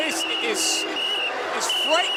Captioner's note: whistle blowing